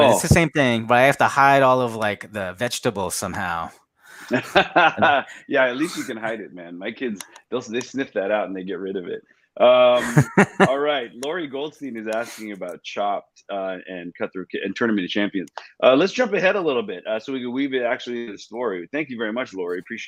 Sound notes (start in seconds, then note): 3.6 Jet laughs; 9.8 laughs